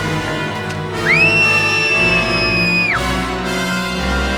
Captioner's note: scream